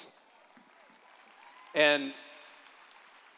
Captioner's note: applause